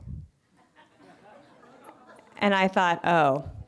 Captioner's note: laughter